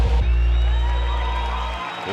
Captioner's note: cheering